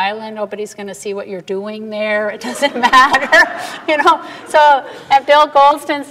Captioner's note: laughter